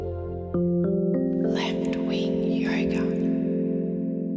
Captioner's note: breathily